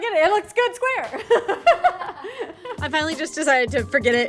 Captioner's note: chuckles